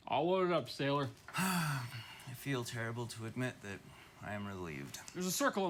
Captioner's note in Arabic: تتنهد